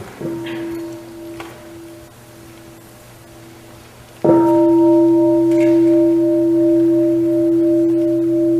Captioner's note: sound of the bell